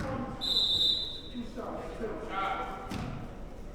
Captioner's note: whistle blows